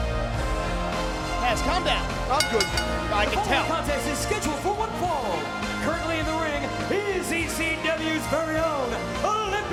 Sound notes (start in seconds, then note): 2.4 bell ringing